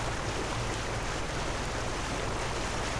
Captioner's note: sounds of water